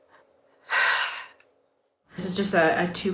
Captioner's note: sighs